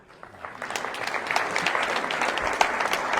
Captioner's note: applause